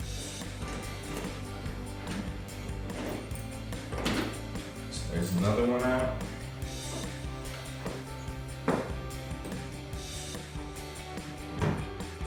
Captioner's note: T20 bolt rattles